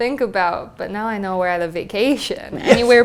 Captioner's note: laugh